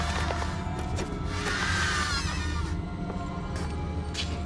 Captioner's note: suspenseful music; low growling; suspenseful music